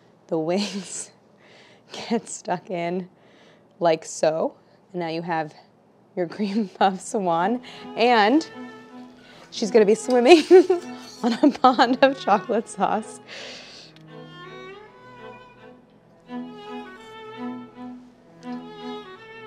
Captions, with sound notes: the wings (laughs) get stuck in like so. Now you have your cream puff Swan, and (gentle wistful music) she's gonna be swimming (laughs) on a pond of chocolate sauce. (gentle wistful music)